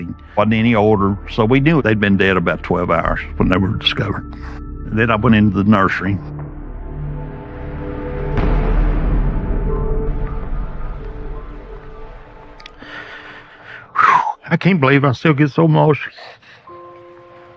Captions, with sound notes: wasn't any odor, so we knew they'd been dead about 12 hours when they were discovered. Then I went into the nursery. [foreboding music playing] [exhales, voice breaks] I can't believe I still get so emotional.